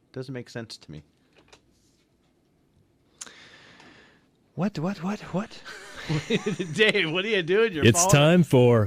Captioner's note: both laugh